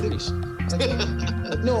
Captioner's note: laughter